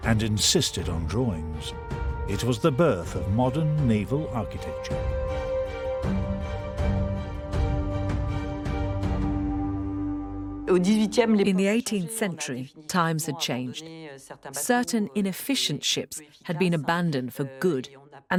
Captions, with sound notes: and insisted on drawings. It was the birth of modern naval architecture. - [Voiceover] In the 18th century, times had changed. Certain inefficient ships had been abandoned for good.